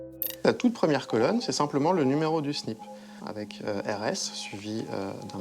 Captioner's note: speaking in foreign language